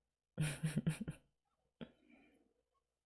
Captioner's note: chuckles